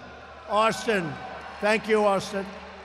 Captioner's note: applause